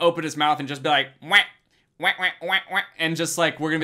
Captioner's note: Danny quacks